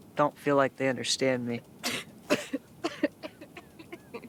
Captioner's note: Sawyer coughs; laughs